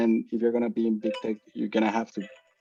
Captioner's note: timer beeps